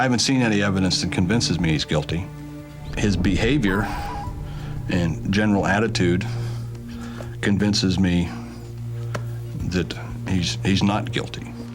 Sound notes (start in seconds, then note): 4.4 sighs